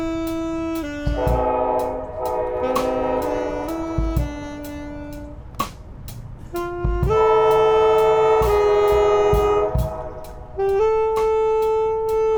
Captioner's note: train horn sounds